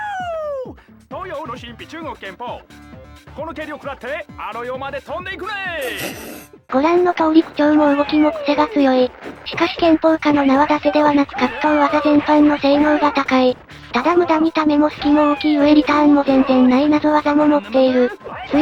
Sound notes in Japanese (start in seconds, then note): 5.8 投稿者が噴出した音